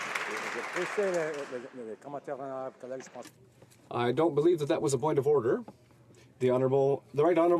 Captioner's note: some Applause